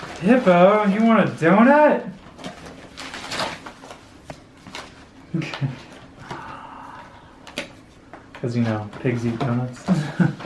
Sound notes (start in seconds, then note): 6.3 lets out sound of excitement; 9.8 laughing at his own joke